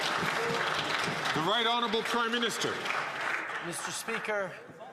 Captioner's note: some Applause